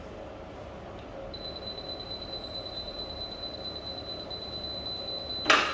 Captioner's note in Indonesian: suara beep